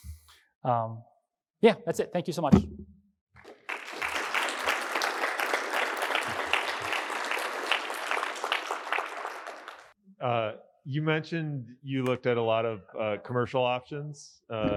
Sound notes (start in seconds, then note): 3.4 applause